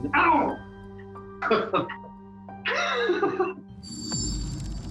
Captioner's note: laughs